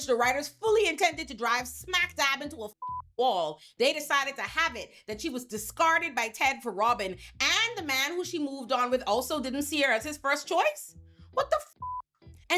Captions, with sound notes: the writers fully intended to drive smack dab into a (beep) wall, they decided to have it that she was discarded by Ted for robbing and the man who she moved on with also didn't see her as his first choice? What the (beep)